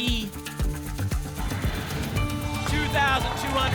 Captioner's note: whoosh